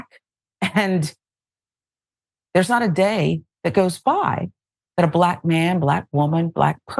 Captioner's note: laugh